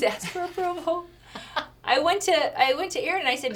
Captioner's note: laughs